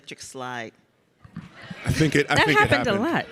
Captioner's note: audience laughs